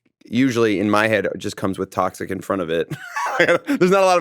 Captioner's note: laughs